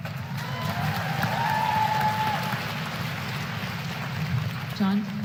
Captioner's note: applause